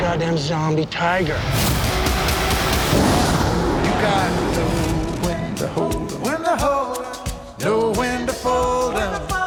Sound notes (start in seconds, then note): 1.3 dramatic music continues; 1.6 roars